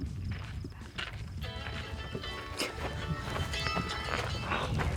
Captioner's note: phone ringing